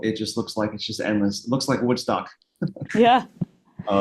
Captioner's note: laughs